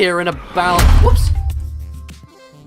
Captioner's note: loud thump